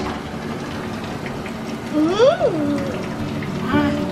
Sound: washer starting

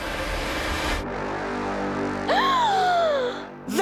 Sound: both gasp

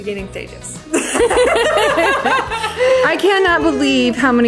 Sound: both women laughing

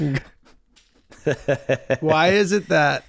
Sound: Glenn laughing

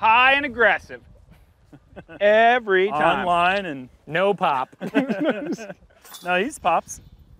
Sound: chuckles; chuckling

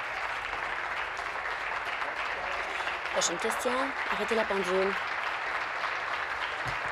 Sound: applause

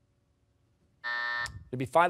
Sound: buzzer

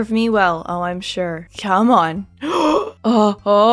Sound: gasp

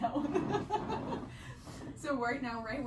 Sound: laughs

